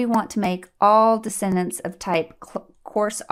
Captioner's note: click